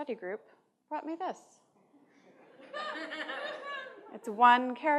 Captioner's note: laughter